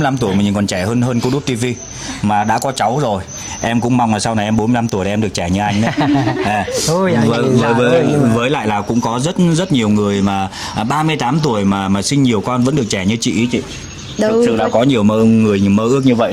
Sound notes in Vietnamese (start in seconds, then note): 5.6 tiếng cười